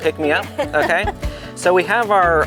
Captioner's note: laughing